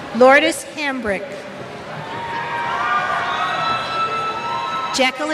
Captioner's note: cheers